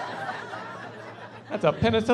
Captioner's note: laughing